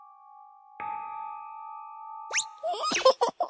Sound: sound effects

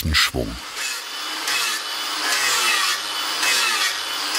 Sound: buzzing machine noise

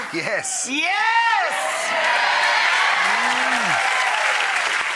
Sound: audience cheering

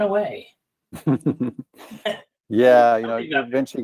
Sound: chuckles

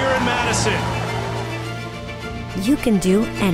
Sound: cheering

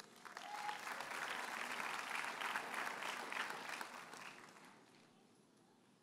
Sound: audience cheers and applauds

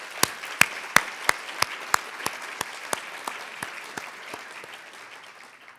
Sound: audience Applauds

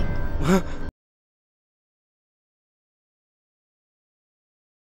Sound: panting

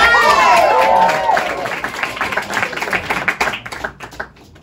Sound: applause and cheers

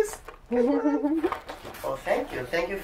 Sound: laughter

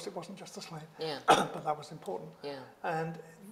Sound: coughs

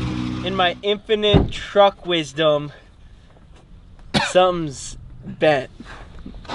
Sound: laughs

